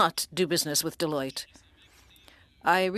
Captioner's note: speaking French